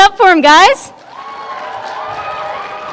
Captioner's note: cheering